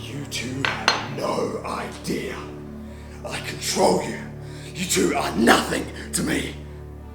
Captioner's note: none